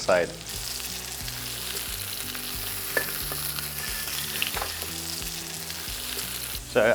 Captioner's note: sizzling sound